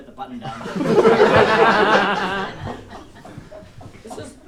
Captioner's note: audience laughs